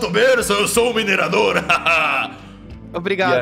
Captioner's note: laughs